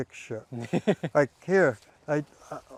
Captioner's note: laughing